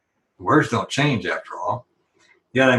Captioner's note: none